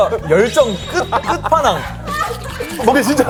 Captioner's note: oh dear, hahaha